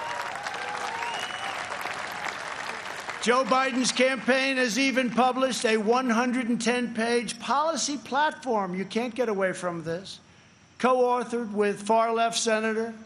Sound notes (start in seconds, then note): 3.7 applause